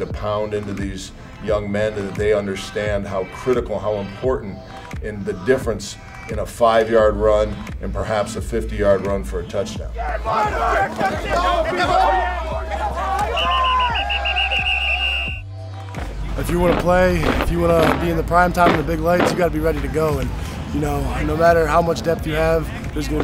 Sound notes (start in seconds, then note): 9.8 yelling; 13.1 whistle Blows